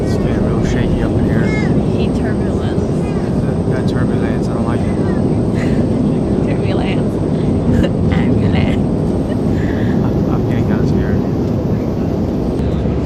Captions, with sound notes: [plane shaking aggresively] I’m getting kinda scared.